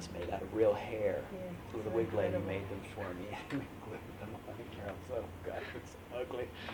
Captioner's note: laughs